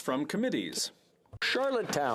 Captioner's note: speaking French